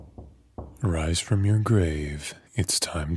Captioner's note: knocking